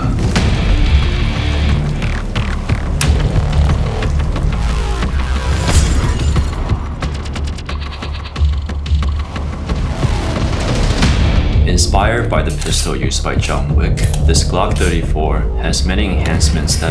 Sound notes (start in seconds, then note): 0.2 exciting music; 5.5 glass shattering; 7.0 exciting music